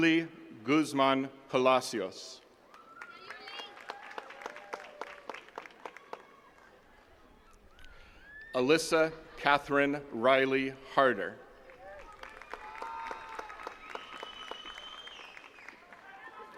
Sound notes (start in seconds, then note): 2.6 attendees cheering and clapping; 11.6 attendees cheering and clapping